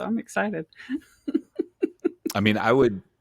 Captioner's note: laughing